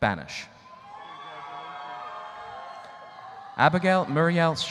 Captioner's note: audience cheering